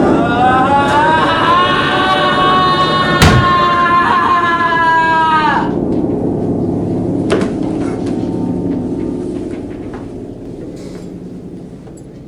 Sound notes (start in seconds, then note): 0.0 thunder rumbling, discordant piano, sailors wailing, Odysseus screaming; 3.3 Odysseus screaming